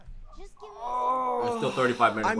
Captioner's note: groans